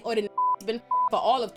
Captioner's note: beep